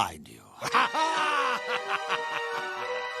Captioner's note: evil laugh